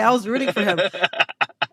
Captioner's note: laughter